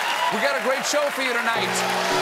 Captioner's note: cheers and applause